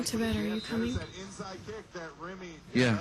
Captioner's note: background TV noise